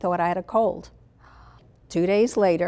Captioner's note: gasp